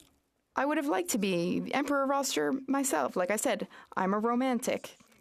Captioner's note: speaking French